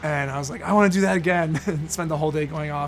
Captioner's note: laughs